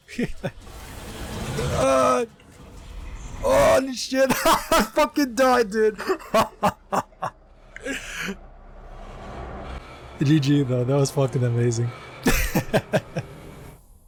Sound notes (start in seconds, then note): 5.8 laughs; 12.2 laughs